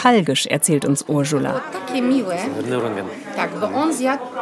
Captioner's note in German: spricht polnisch